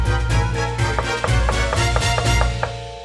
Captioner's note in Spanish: tock, tock